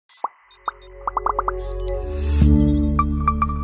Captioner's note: bubbles popping; logo chiming